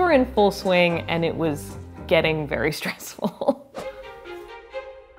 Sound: laughs

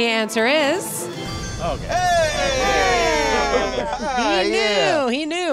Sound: twinkling

